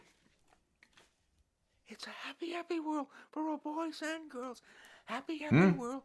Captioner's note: whispering